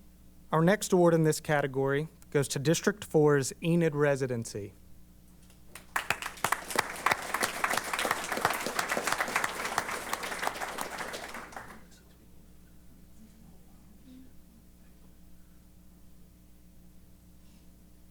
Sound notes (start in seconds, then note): 5.6 applause